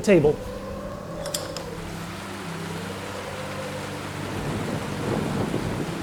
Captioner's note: wind and rain noises